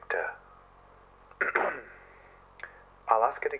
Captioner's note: clearing throat